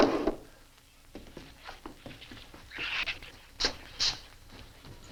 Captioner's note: gun clanks; footsteps thudding